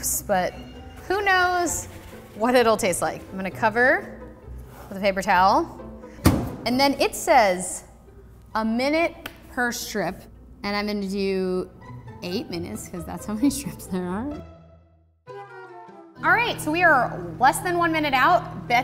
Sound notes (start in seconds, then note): 6.2 door slamming; 15.2 trumpet music